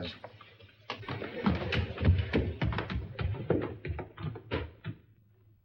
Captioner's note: footsteps up stairs